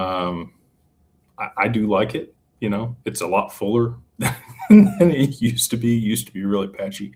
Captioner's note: laughter